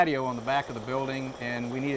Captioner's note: jackhammer drilling